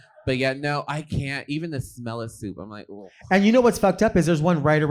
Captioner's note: vocalizing disgust